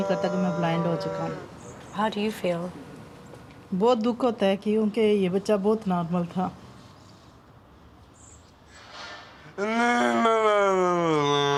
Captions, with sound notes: - How do you feel? (speaking in foreign language) (groaning)